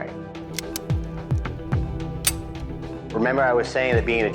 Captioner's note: gun clicks; suspenseful music continues